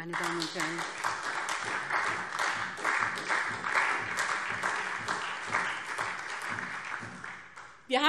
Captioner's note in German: Beifall SPD und vereinzelt Freie Demokraten